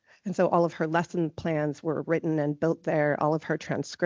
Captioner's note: none